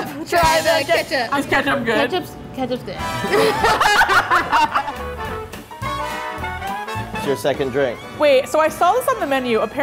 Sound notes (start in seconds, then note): 3.2 both laughing; 5.4 bright jazz music